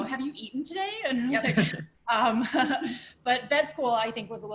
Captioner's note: laughter